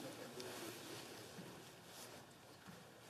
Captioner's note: speaking French